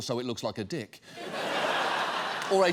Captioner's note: audience laughs